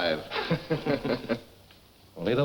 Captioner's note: men laughing